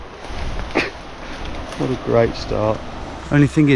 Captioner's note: chuckles